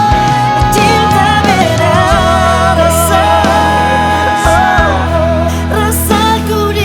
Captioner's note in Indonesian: Ohh